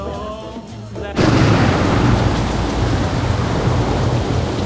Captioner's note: thunder, heavy rainfall